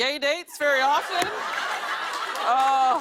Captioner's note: laughter